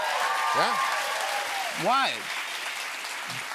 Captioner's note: cheers and applause